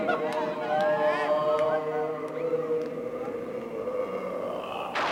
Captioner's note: Sir Simon moaning